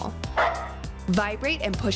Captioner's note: dog barking